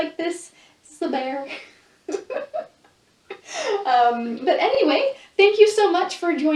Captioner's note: laughs